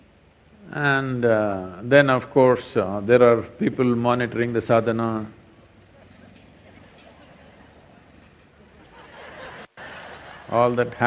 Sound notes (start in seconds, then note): 8.4 gestures/Laughter